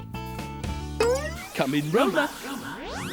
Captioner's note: dinging